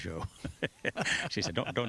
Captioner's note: laughs